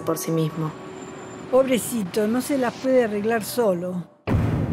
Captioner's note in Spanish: Voz de mujer